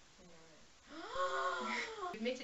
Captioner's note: gasps